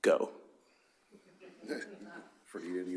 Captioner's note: laughter